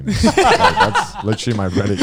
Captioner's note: laughing